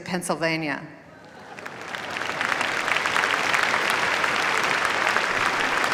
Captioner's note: applause